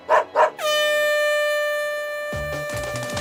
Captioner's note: dog barks; air horn blares